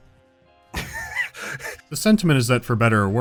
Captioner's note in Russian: давится смехом